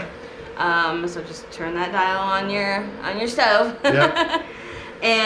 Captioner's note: laughing